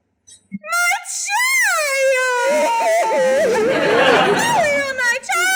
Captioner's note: weeping